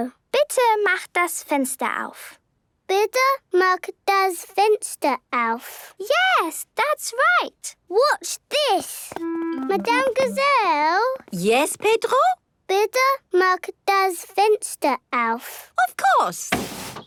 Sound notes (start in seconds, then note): none